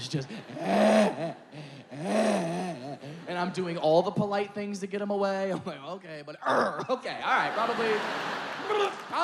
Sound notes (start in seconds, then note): 0.6 comedian mimics child vocalizing; 7.3 audience laughing